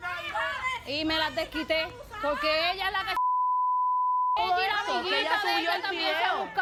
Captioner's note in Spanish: Bip